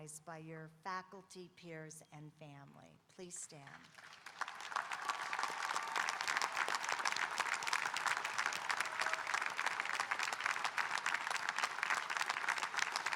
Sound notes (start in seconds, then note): 3.8 audience applauding and cheering